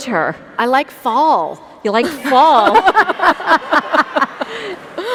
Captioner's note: laugh